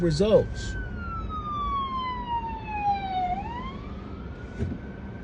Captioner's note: ambulance siren blaring